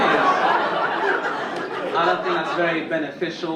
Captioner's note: audience laughing